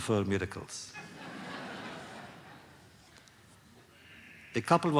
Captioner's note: laughter